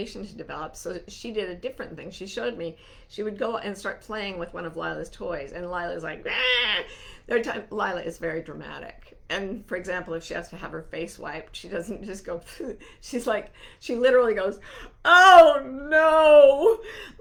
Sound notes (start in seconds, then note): 6.2 mimicking Lila screaming